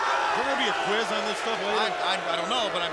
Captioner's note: crowd chatter